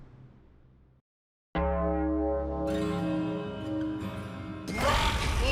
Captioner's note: bell tolling